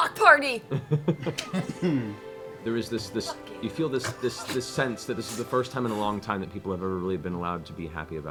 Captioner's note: laughs